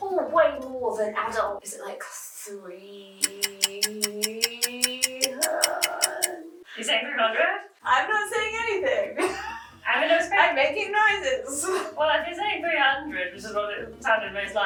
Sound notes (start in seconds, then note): 3.2 clocking ticking; 9.2 laughing